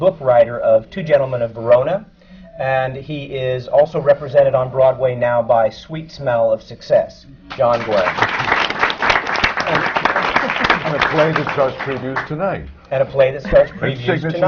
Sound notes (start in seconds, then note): 10.3 applause